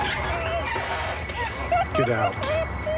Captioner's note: sobbing